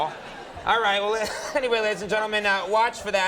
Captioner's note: chuckles